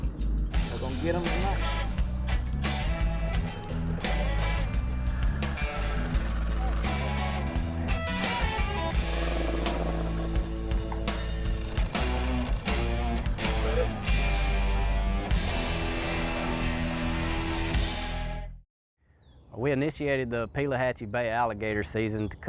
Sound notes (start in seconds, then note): 1.9 upbeat music; 6.2 boat engine whirring; 6.2 upbeat music; 15.4 upbeat music fading